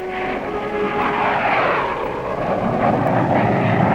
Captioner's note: jet engine roaring